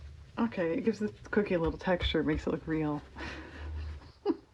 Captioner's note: laughs